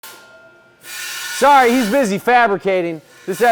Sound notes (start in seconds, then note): 0.9 metal grinding